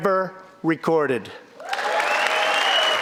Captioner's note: cheering and applause